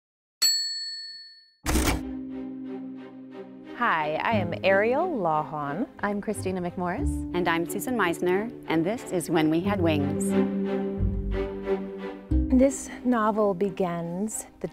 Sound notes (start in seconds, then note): 0.4 bell dings; 1.6 typewriter clacks